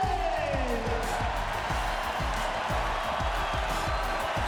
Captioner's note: cheering